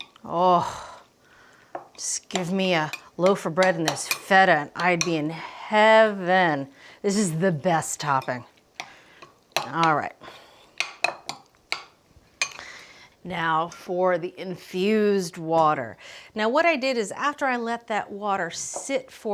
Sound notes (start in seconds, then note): 10.8 spoon clinking